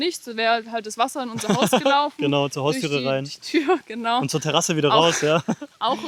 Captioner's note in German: gelächter